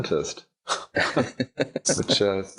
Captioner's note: laughing